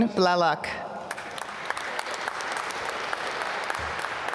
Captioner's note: applause